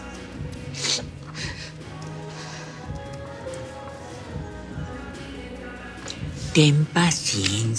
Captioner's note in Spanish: Sollozos